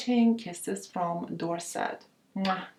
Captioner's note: lips smack